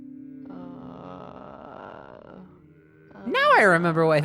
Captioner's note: Spongebob voice; groaning zombie sounds